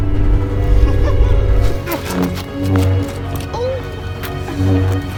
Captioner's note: chuckles